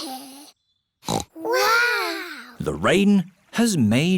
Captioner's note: peppa snorts